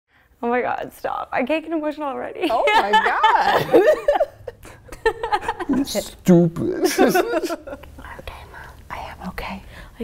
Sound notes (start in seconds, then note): 2.7 laughs; 6.7 both laugh; 6.9 woman laughs; 8.2 whispers